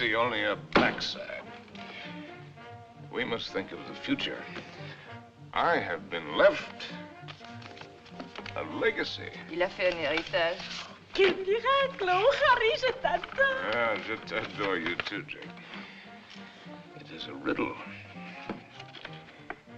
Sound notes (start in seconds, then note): 9.8 French